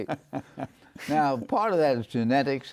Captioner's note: chuckles